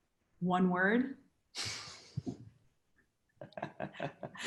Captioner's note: laughs